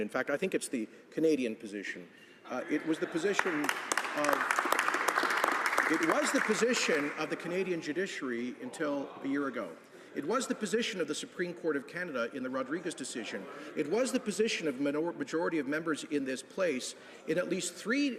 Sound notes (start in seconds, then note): 7.6 some Applause